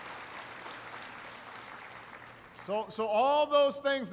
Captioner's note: applause